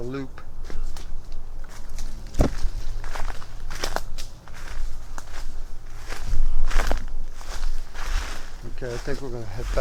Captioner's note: crackling footsteps